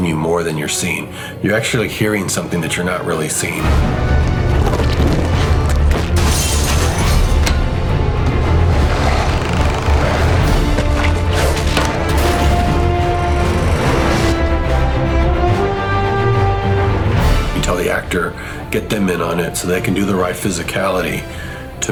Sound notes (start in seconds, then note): 4.9 glass shattering; 12.0 upbeat music; 14.0 airborne bus swishes